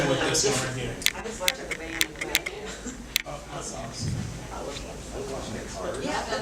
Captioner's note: audience chattering and laughing